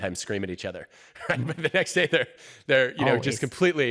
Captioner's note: chuckles